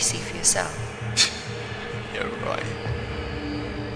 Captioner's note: scoffing